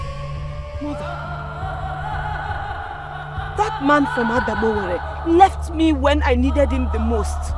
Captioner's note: cheering